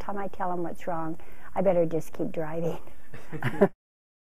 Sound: laughs

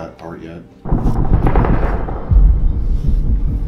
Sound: gun Fire

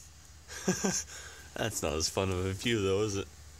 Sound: laugh; laughing

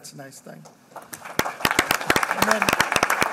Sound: applause

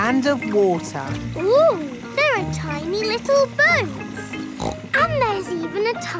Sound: snorts

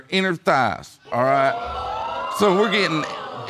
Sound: audience exclaiming

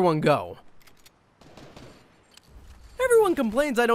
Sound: gunshots in the distance

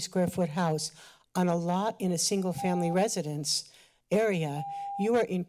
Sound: timer beeps

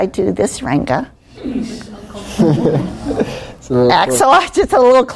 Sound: laughing

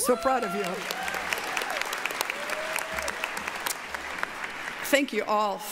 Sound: applause, cheering

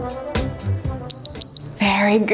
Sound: timer beeps

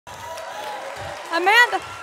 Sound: audience cheering

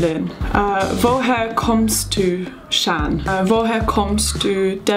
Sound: speaking in foreign language

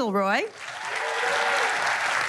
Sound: cheers and applause

